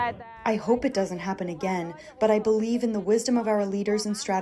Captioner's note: through translator